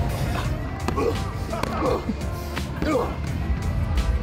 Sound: man grunting

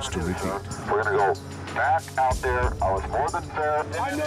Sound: voiceover

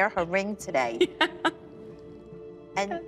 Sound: laughs

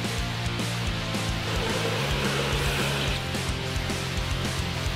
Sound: engines humming

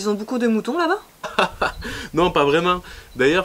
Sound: laughing

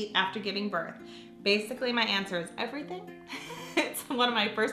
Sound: laughs

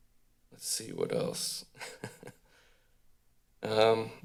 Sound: chuckles

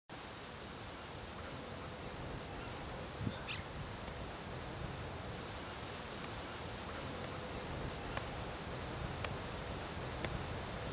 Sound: ambient sound - Field

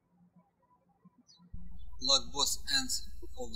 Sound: birds chirping

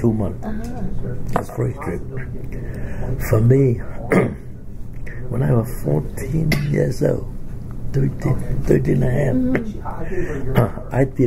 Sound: coughs; coughs

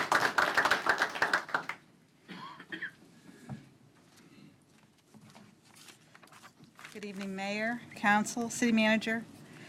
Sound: applause

